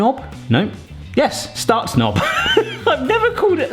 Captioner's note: laughs